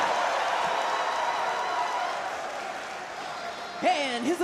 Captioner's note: crowd cheers